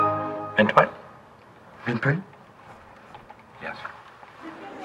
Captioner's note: computer sound